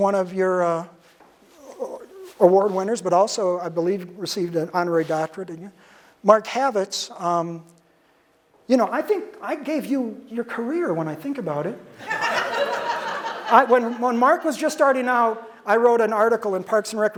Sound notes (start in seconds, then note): 12.0 audience laughter